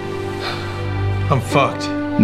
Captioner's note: Allan sighs